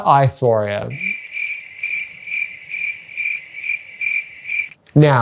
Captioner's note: crickets Chirpping